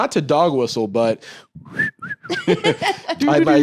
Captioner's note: whistles